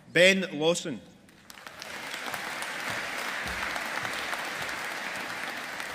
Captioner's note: audience applauding